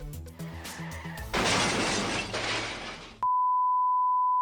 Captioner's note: objects crashing; tone beeps